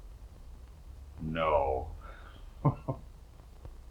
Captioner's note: laughs